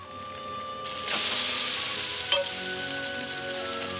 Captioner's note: sizzling